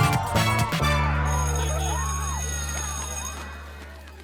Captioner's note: bell rings